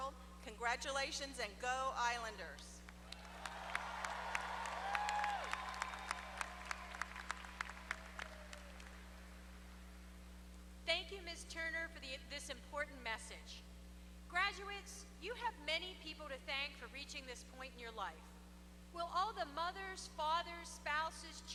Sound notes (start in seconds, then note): 3.0 applause